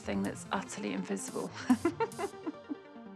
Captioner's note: laughing